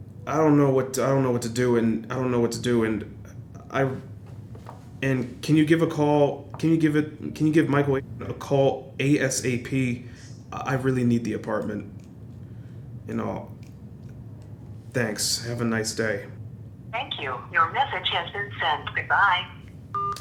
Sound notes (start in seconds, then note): 16.7 automated voice